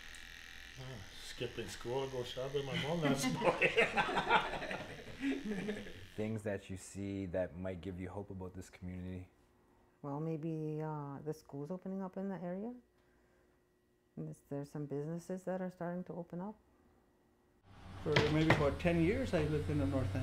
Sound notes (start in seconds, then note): 0.1 laughs; 5.5 laughter